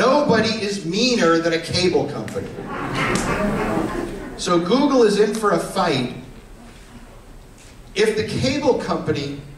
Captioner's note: laughter